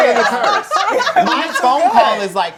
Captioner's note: laughter